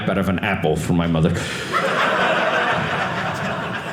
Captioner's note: audience laughing